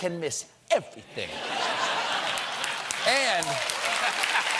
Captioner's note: cheers and applause